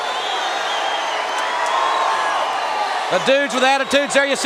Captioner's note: crowd cheering